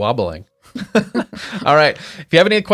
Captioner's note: both laughing